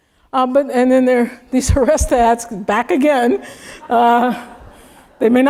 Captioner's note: laugh